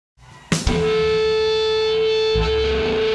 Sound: audio feedback

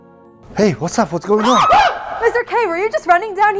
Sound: screaming woman

